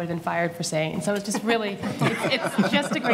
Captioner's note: audience laughing